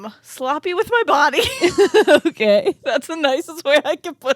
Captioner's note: both laughing